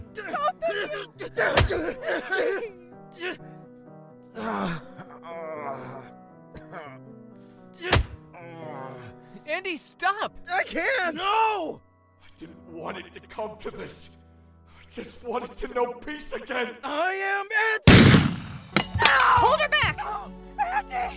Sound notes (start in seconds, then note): 15.6 In Andy’s voice